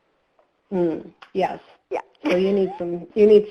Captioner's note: laughs